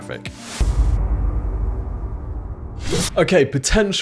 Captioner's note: whoosh